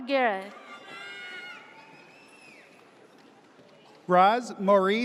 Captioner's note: audience cheers